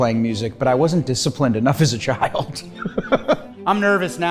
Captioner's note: laughs